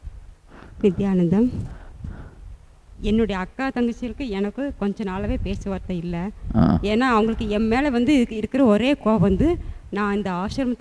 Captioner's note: she speaks in her language